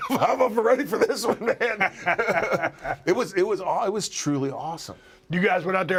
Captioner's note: laugh